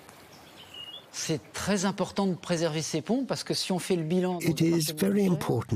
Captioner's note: man speaks in foreign language